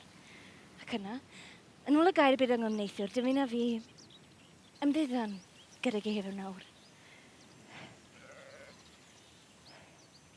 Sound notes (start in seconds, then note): none